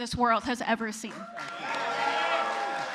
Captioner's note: applause